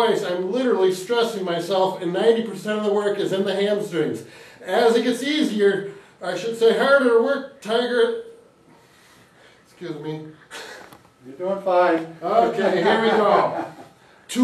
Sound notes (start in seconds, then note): 8.6 breathing deeply; 12.3 chuckles